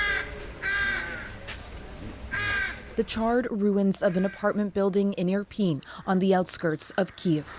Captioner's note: bird cawing